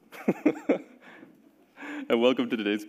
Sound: giggling

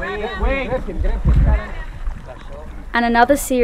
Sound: groans; everyone exclaiming

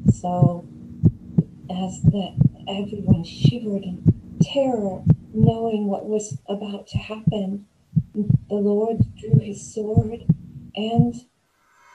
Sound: startling sound effect

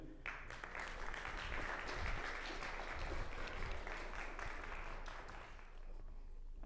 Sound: applause

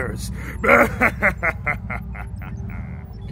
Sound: evil Laughter

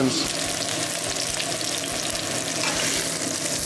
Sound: sizzling; exhaust fan running

